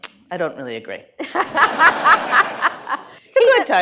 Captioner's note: laughter